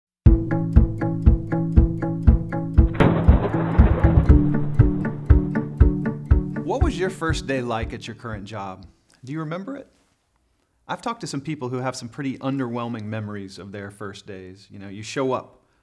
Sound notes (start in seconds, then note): 0.3 joyful music; 2.8 thunder booming